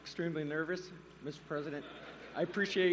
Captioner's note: laughter